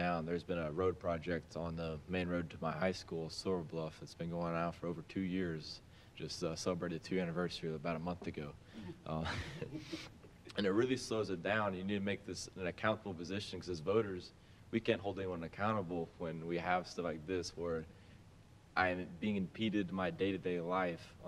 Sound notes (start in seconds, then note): 8.8 laughs